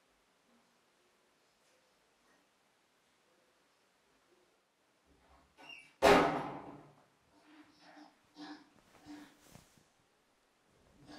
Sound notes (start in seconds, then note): 6.0 door slams